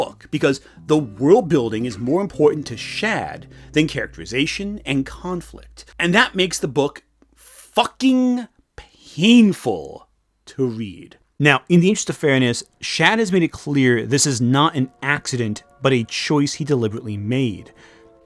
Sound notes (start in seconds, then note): none